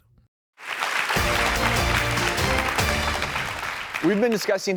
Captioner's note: audience clapping